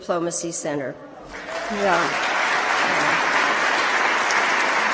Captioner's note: applause